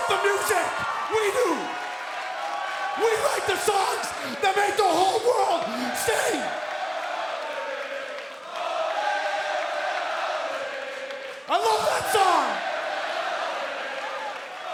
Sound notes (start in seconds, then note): 8.5 fans chanting